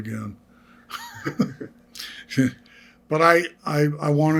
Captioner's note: laughing